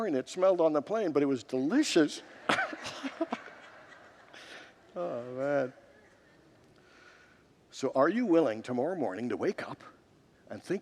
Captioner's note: congregants laugh